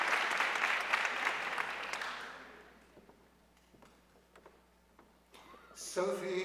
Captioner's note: audience cheering and applauding